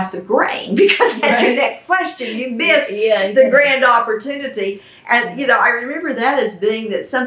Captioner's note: laughter